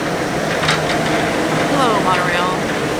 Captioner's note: monorail sounds